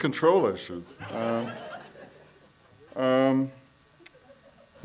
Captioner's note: audience laughs